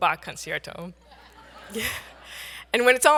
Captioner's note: audience laughs